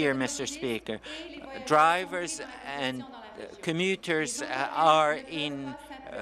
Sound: speaking French

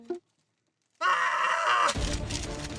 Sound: screams

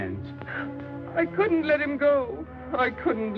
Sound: weeping

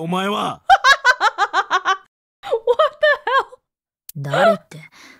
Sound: laughs

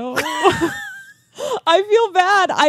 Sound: chuckling

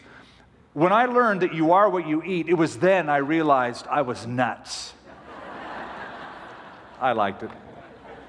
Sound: laughter

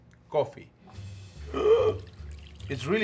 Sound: gasps

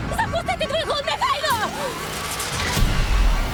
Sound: mechanical whirring

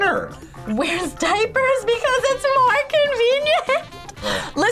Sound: laughs

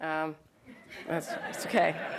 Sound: audience laughs

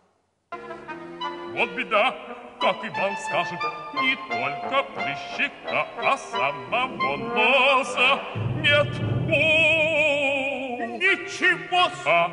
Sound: non-english speech

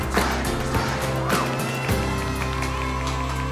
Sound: cheering

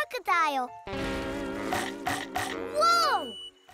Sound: snapping

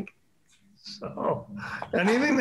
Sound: chuckles

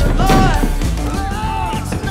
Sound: crash; upbeat music

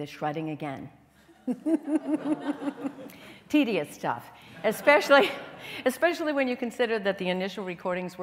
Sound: chuckles

